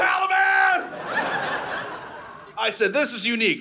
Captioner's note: audience laughing